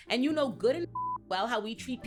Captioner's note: beep